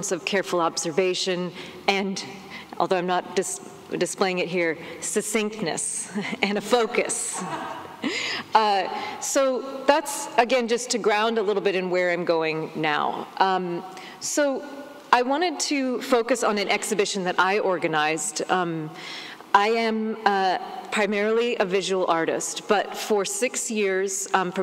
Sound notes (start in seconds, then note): 6.1 laughs